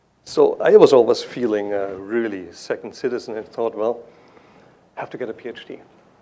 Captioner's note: none